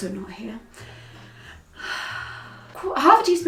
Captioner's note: exhaling